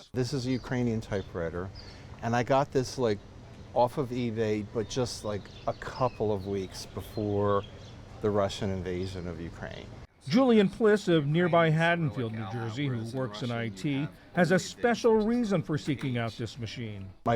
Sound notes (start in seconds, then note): 10.6 voice-over